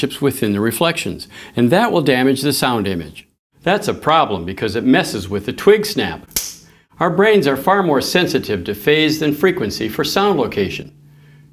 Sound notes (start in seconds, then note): 6.3 snap